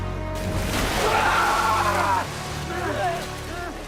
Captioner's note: screaming